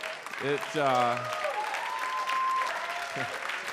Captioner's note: audience cheers